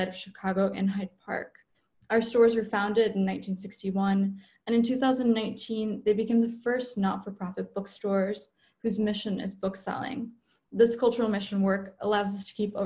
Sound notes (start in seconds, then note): none